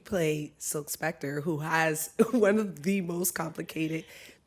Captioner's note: chuckles